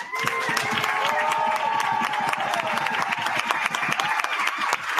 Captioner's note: cheering and applause